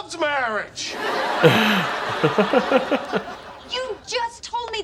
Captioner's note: laugh track and laugh